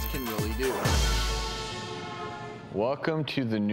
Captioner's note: car horns